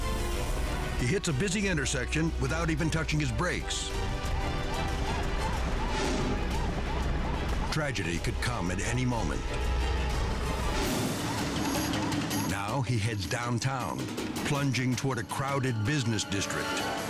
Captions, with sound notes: He hits a busy intersection without even touching his brakes. (dramatic music continues) (sirens wailing) Tragedy could come at any moment. (dramatic music continues) Now he heads downtown, plunging toward a crowded business district.